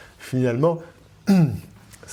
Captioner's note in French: ahem